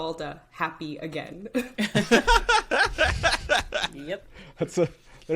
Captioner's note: all laughing